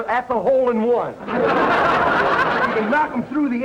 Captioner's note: audience laughter